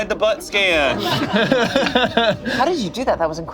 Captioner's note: group laughs